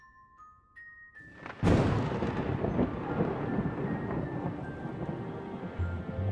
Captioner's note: thunder rumbles